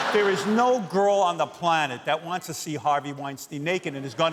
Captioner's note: laughter